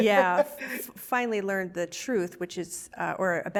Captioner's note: laughs